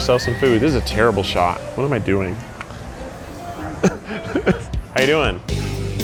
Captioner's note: laughs